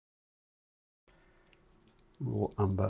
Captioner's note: silence